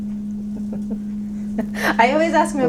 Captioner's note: laughing